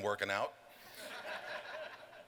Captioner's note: laughter